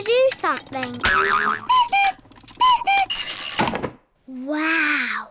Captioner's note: clock cuckoos